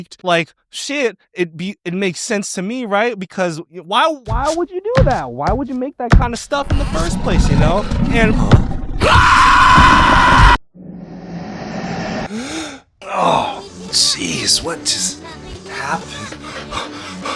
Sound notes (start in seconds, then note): 6.1 floor thudding; 9.0 screams; 14.0 gasps